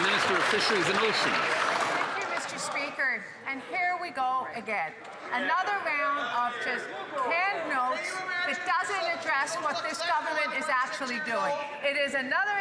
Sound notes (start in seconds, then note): 2.2 some Applause